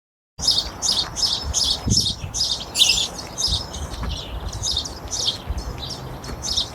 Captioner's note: birds cawing